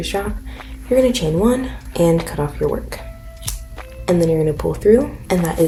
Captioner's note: scissors cut